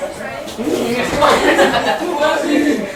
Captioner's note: laughter